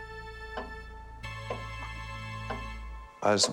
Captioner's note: clock ticks